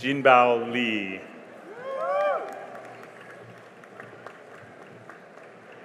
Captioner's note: cheering and applause